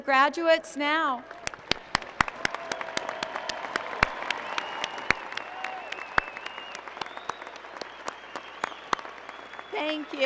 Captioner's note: applause